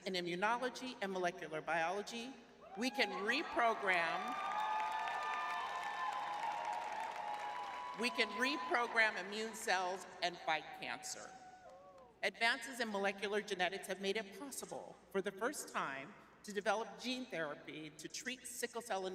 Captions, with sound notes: in immunology and molecular biology, we can reprogram- [cheering] We can reprogram immune cells and fight cancer. Advances in molecular genetics have made it possible for the first time to develop gene therapy to treat sickle cell